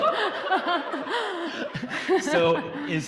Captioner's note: audience applauding